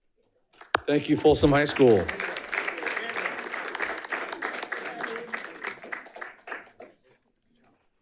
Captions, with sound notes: - Thank you, Folsom High School. (audience applauding) (speaker speaking faintly)